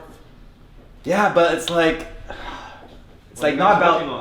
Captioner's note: sighs